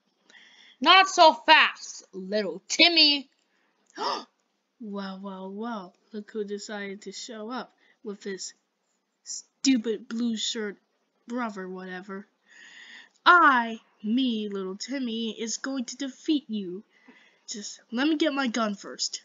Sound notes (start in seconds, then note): 0.3 Lil Timmy gasp